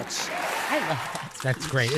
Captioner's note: audience cheering